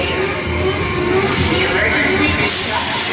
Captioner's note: alarm sounds